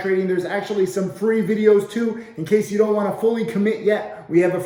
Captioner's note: none